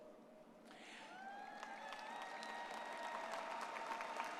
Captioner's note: crowd cheering